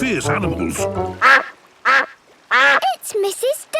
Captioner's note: quacking